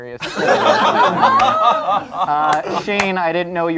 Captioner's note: group laughs